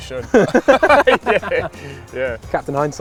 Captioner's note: laughs